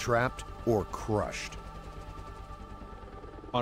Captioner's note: voiceover